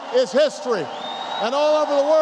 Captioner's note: applause